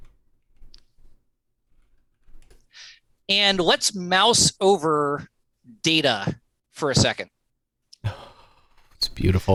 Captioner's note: laughter